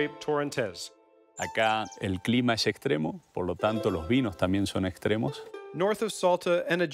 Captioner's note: speaking Spanish